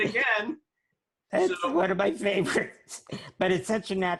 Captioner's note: laughs